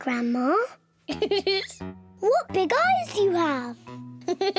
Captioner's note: giggles; laughs; laughs